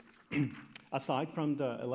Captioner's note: clears throat